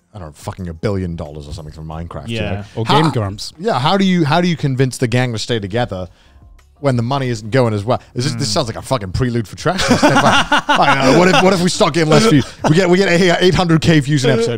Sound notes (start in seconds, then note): 9.7 co-hosts laugh